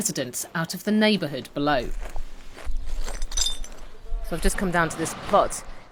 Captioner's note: glass breaking